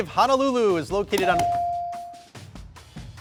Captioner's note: buzzer dinging; suspenseful music